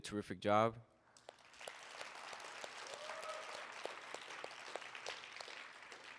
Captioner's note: and audience applauding